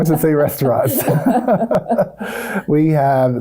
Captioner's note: both laugh